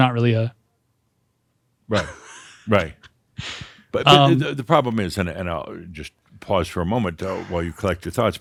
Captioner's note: chuckles